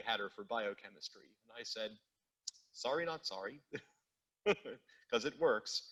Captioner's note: chuckles